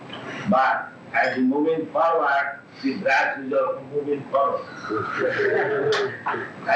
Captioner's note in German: Gelächter